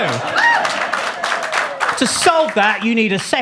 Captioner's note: audience laughs; audience claps